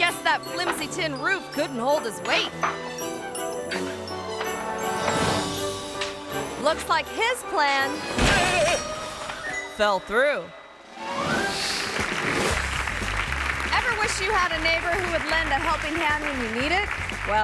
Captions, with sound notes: Guess that flimsy tin roof couldn't hold his weight. (playful music) Looks like his plan (man shouting) fell through. (audience applauding) Ever wish you had a neighbor who would lend a helping hand when you need it?